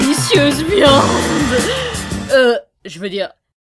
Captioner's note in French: Soupir d'extase